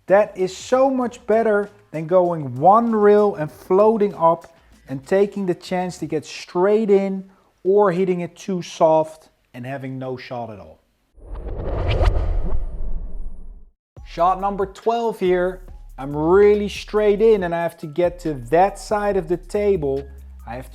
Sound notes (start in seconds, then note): 11.2 transition whooshes